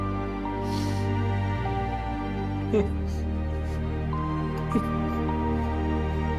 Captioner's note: gentle music continues; Greg sobbing